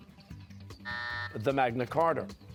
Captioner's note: buzzer